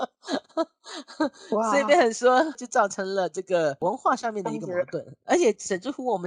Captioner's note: argument